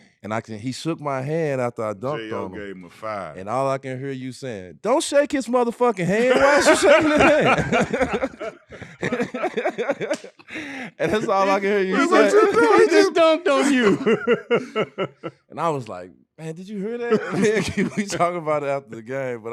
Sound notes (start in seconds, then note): 7.8 laughing; 16.9 laughing